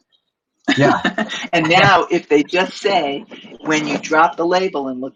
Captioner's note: laughs